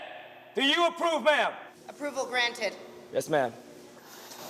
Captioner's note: none